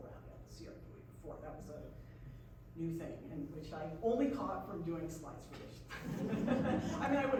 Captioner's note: laughs